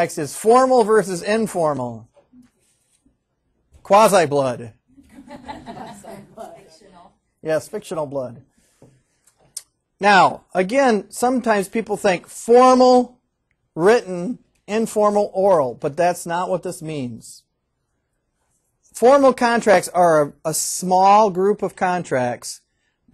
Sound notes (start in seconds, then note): 4.9 students laughing